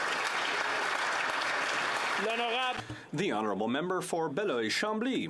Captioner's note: some Applause